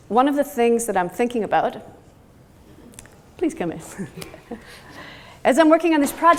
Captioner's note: laughs